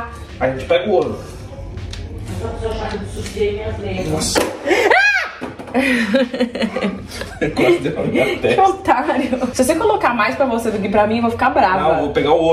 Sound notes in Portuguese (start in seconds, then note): 4.7 grita; 5.7 risos